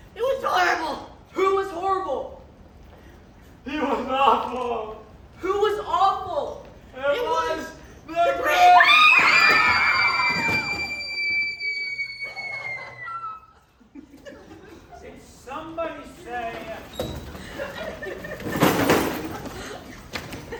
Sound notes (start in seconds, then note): 8.4 whos screaming; 10.7 K.T. Beru Who gives out a long, horrifying screech